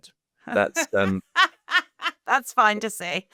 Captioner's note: laughing